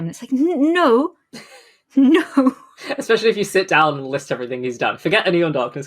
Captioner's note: laughing